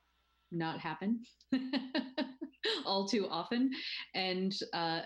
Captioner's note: laughs